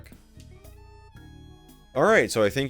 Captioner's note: silence